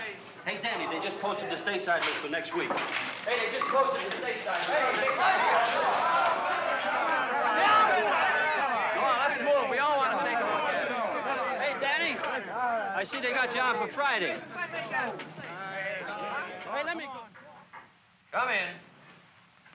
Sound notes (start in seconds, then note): 4.9 excited chatter; 14.8 excited chatter